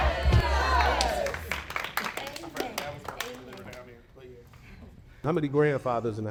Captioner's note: cast clapping